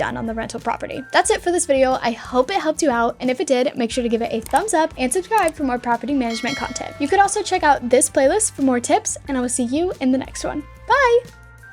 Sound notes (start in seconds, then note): 4.3 mouse clicking; 6.2 bell dinging